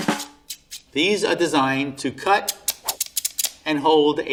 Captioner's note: drum roll; snips scissors